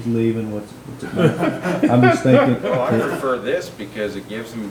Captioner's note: members laughing